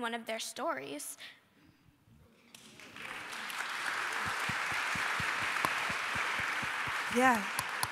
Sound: applause

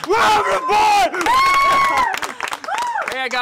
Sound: cheering

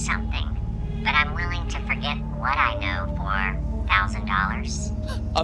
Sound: phone distorted voice

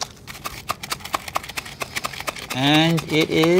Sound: rice roll shaker shaking

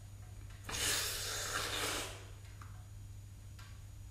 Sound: he breathes in, sharply

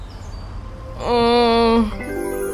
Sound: groans

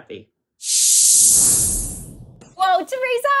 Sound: swooshing

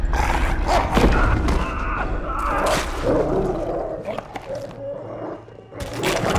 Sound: CX404 growling; scientist grunting; bones cracking

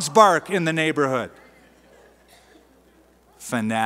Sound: laughter

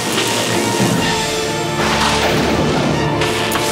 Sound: thundering

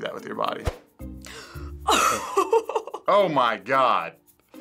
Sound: gasps, laughs

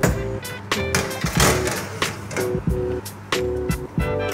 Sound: metal clattering; upbeat music

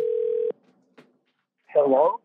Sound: phone ringing

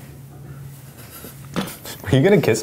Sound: laughing

